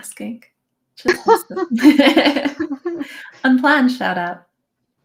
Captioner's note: laughing